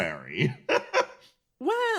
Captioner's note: laugh